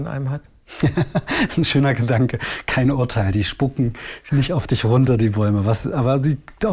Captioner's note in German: lacht